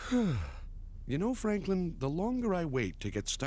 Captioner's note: sigh